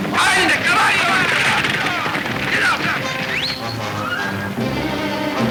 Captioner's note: whistling at horses